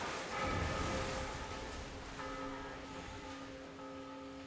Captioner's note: bell tolling